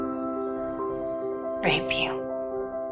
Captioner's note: voiceover